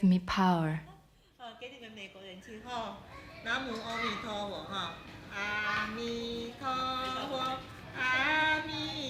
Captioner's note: speaking and singing in Taiwanese